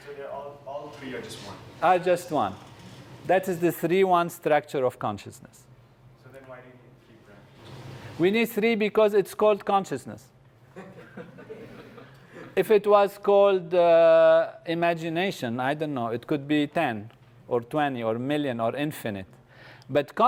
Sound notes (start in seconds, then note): 10.7 laugh